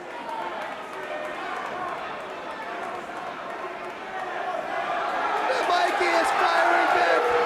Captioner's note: crowd chatter